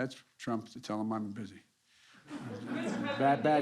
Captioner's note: laughter